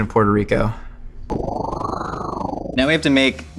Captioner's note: wind whirls